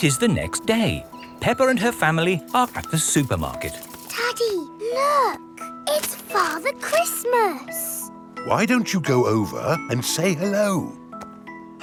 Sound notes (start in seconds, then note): none